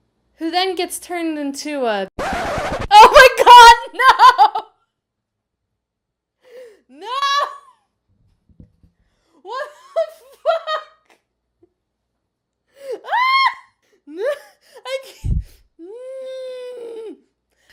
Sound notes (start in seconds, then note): 2.1 wicked record scratch; 8.1 laughing